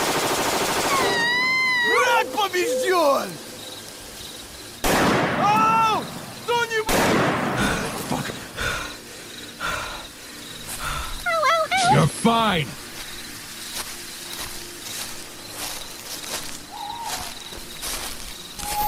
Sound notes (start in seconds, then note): 0.0 gunshots; 1.8 Russian; 4.8 gunshot